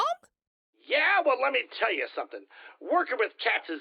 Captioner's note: in his Jim Hairy voice